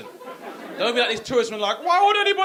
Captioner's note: audience laughing